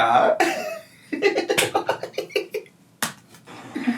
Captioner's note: laughing